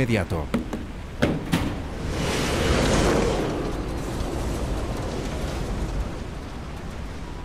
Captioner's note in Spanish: viento